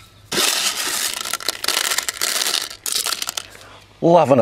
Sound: tinkling

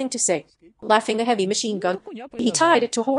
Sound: laughing

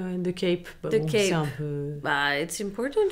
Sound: Adèle speaks French

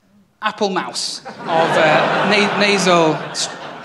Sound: laughter

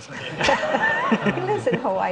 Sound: audience laughing

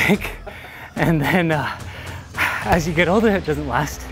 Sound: laughing

